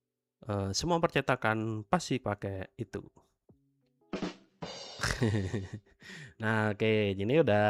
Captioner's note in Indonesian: tertawa